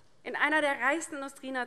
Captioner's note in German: none